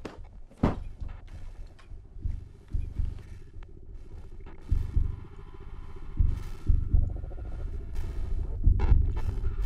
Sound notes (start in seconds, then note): 2.4 click; 4.6 music rises